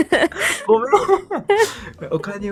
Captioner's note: laughs